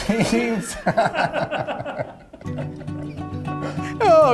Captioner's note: all laughing